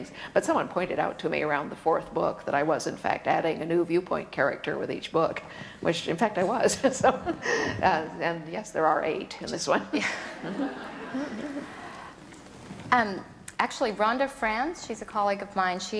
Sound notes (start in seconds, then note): 7.7 laughs; 10.0 audience laughter